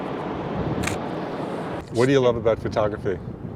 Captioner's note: camera shutters